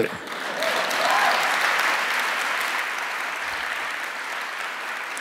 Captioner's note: audience applauds